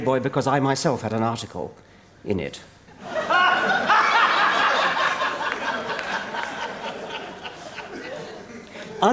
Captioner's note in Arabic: ضحك